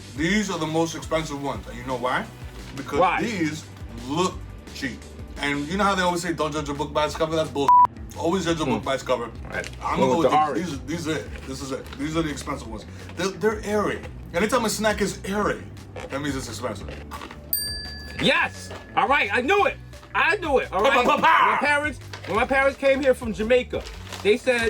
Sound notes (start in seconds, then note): 7.6 beep; 17.5 bell dings